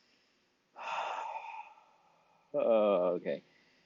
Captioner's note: sighs